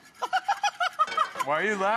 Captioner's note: laughing